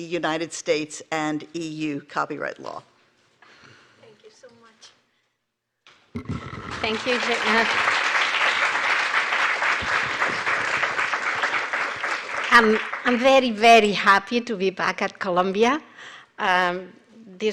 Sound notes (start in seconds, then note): 6.1 applause